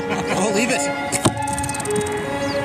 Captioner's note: laughter; arrow thumps